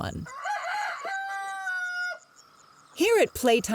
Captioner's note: rooster crowing